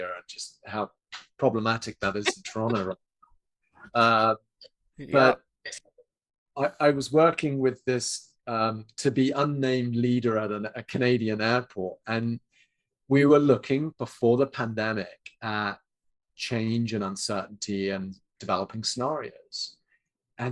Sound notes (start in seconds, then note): 4.2 laughs